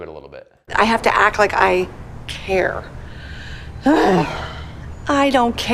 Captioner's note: sighs